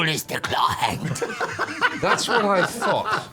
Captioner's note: laugh